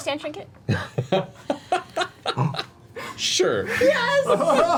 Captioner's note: laughs